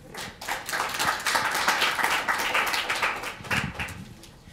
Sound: applause

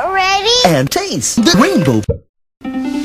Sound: bottle pop

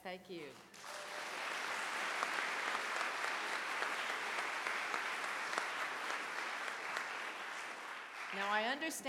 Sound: clapping

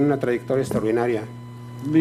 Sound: speaking foreign language

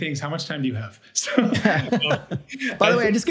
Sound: both laugh

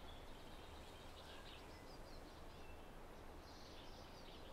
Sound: birds chirping

